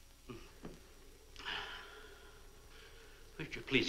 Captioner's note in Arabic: مارلو يتنهد